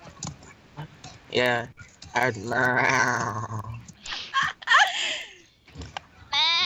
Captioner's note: laughing